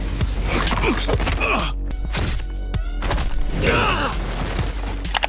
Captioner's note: wall crunching; Homelander grunting